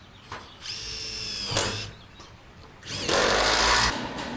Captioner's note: drill whirring